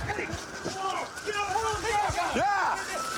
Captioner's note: officers yelling